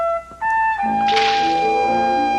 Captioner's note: splash